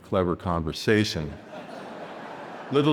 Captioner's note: audience laughing